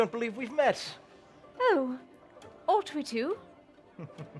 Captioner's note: posh accent